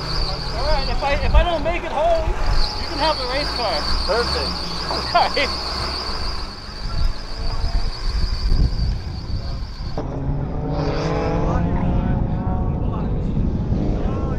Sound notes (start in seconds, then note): 4.6 driver laughing; 6.0 engine screeching; 10.5 engine roaring